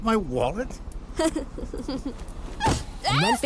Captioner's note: chuckles